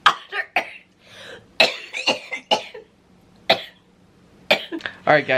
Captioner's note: coughing